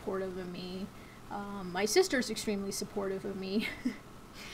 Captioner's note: chuckles